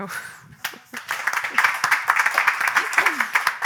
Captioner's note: applause